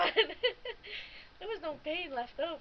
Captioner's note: laughing